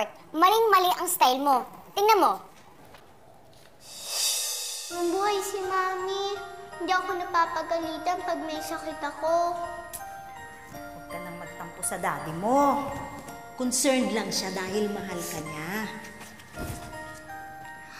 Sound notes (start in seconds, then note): 9.8 Ling clicks tongue; 15.9 Nina sniffling